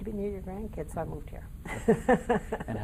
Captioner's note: laughing